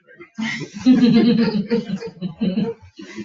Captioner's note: people chuckle